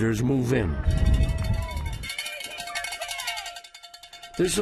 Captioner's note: bell ringing